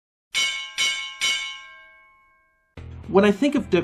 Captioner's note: bell dinging